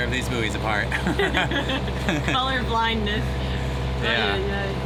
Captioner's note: both laugh